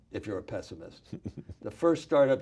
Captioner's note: laughs